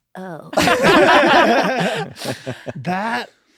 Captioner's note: laughter